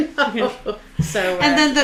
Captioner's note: laughs